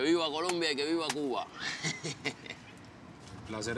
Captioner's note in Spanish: carcajadas